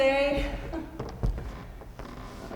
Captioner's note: chuckles